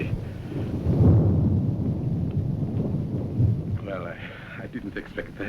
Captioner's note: thunder roaring